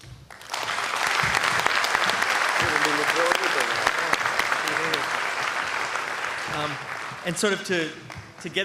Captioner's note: applause